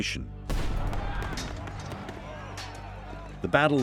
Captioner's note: gunfire banging; soldiers shouting